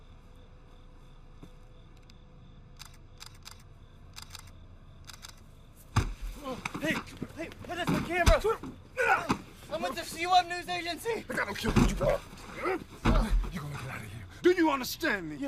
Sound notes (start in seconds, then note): 2.4 camera shutter clicking